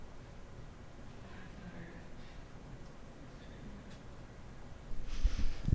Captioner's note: faintly speaking